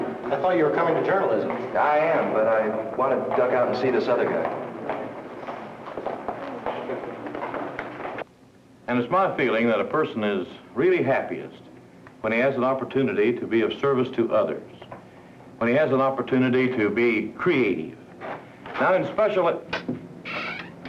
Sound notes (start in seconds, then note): 5.1 footsteps